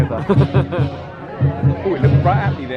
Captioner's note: laughing